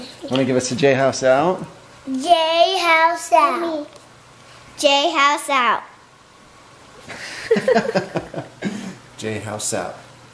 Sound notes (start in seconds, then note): 7.1 laugh